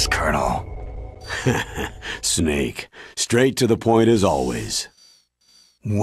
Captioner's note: laughs